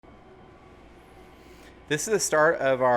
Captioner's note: machines humming